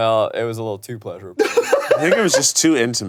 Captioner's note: laughs